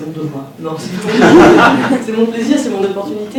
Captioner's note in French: rires